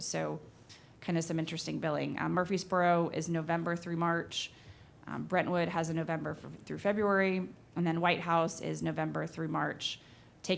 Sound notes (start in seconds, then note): none